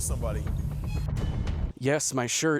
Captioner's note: meek beep